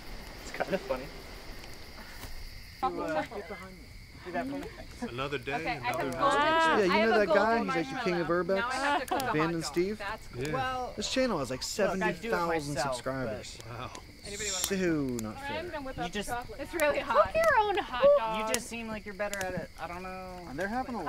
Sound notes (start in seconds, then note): 3.0 campfire chatter